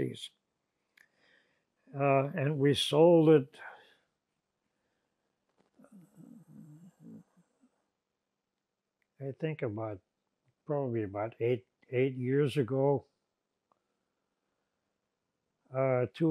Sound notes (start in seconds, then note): 5.0 pauses 6 seconds